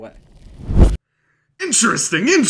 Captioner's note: poof